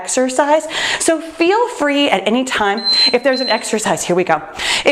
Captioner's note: timer beeps